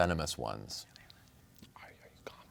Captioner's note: whispers